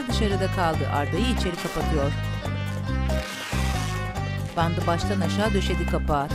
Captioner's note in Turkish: Müzik - Hareketli; Bant yapıştırma sesi; Müzik - Hareketli